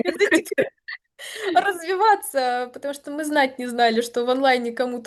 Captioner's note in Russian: смех